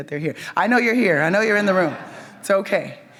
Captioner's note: audience laughs